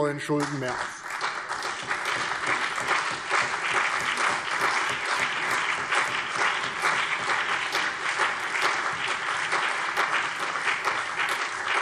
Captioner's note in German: Beifall CDU und BÜNDNIS 90/DIE GRÜNEN